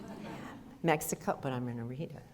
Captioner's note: audience laughter